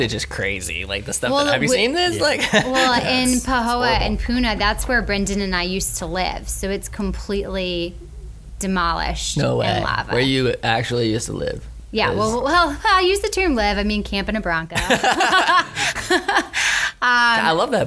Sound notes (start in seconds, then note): 14.8 laughs